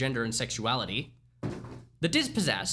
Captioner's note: second book THUMPS